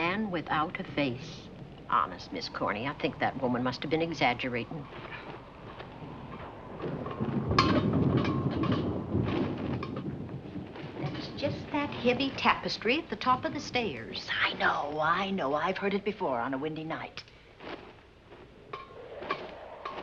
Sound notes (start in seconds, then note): 7.1 metal rattling